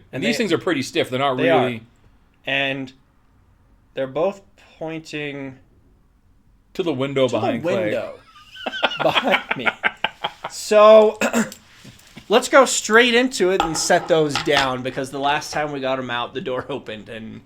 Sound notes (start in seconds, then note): 10.2 laughs